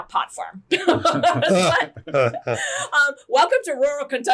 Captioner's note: laughing